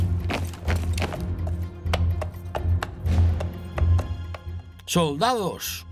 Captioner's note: hooves clomping; soldier marching